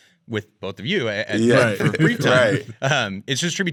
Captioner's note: laughing